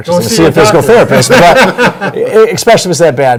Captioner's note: laughing